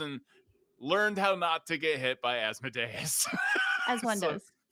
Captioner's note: laughs